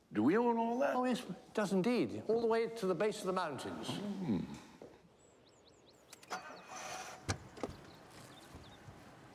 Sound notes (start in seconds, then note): 4.4 engine starts